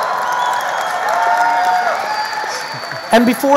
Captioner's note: audience cheering